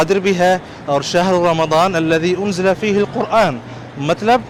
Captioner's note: Arabic